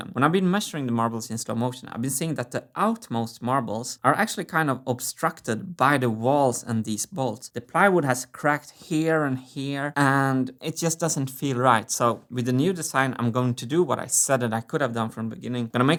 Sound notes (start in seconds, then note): none